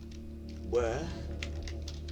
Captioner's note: radio